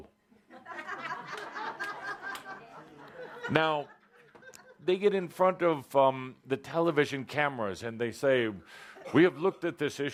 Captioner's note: laughter